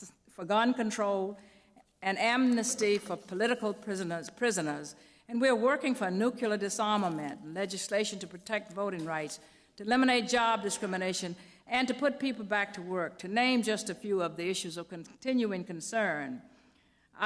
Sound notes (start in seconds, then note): none